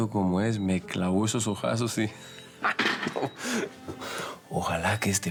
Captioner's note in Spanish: Ríe